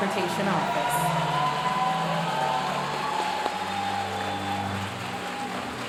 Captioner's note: audience cheering and applauding